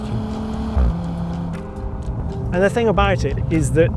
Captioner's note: vehicle revs